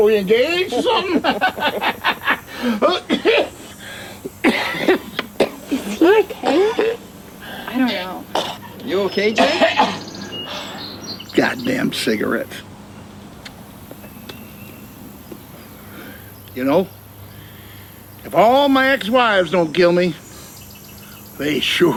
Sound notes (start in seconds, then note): 0.4 both laughing; 2.6 Jake coughing